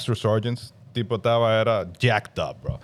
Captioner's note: speaking In Foreign Language